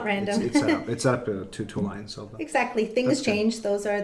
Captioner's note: voice muffled